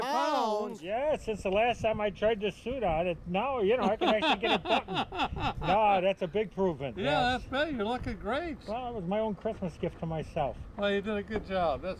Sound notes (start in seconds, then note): 3.8 laughing